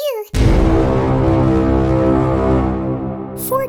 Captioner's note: foghorn